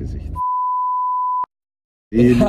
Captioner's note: beep